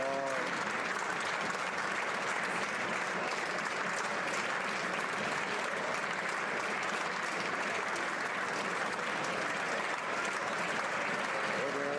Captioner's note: applause